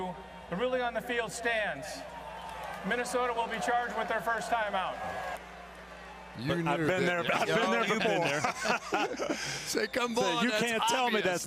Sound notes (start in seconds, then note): 6.1 booing; 9.4 laughter